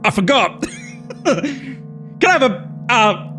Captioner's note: laughs